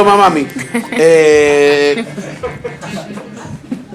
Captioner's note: laughs